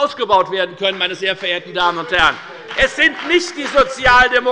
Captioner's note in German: Beifall bei der FDP